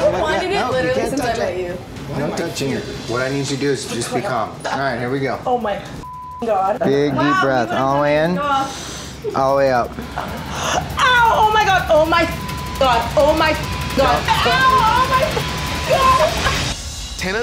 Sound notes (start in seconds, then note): 6.0 beep; 12.2 beep